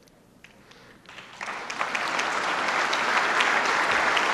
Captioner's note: applause